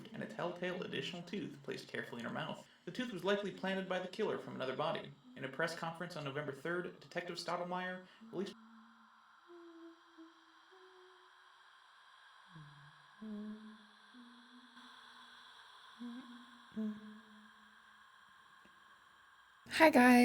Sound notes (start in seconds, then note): 8.9 breathy whispering continues